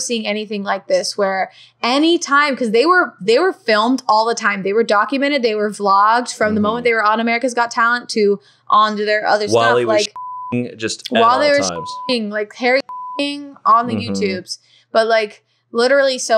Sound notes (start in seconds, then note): 11.1 beep